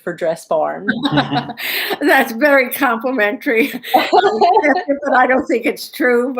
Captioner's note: laughter